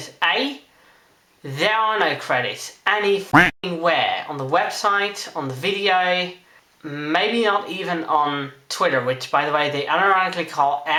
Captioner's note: quack